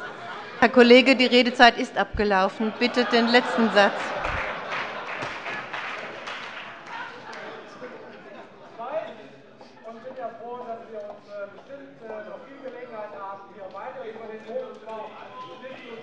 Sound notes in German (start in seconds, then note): 5.0 Heiterkeit und Beifall bei der CDU